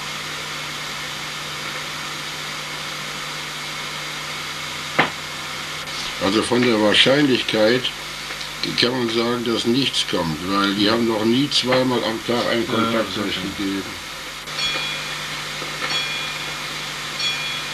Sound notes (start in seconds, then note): 5.0 knock